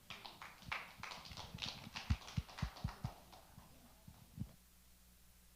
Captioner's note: attendees applaud